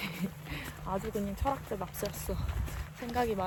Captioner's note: haha